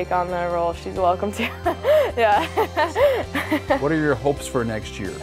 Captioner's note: laughing